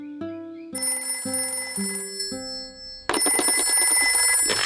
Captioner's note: phone rings